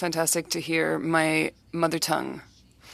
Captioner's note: speaking French